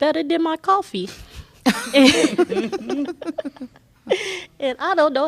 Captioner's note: laughter